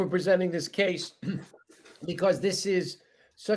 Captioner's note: clears throat